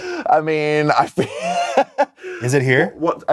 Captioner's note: laughs